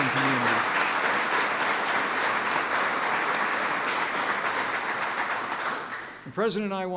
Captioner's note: applause